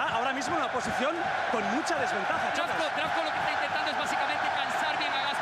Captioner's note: cheer